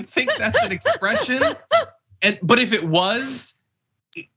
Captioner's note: laugh